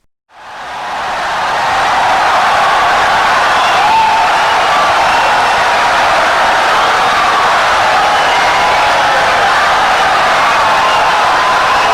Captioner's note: wild applause and cheering for 17 seconds